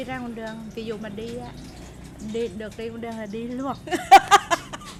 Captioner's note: laugh